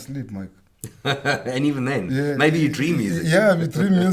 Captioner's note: laughs